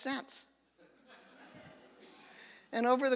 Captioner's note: audience laughter